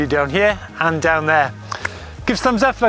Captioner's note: claps